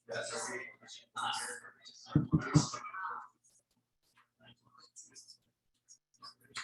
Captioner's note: people chattering indistinctly continues